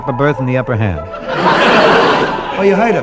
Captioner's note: audience laughing